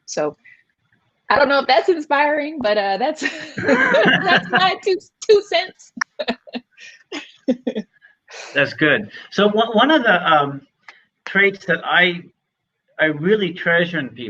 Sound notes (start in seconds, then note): 3.2 laughing